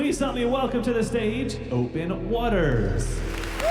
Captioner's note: applause